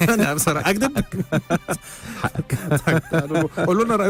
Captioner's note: laughter!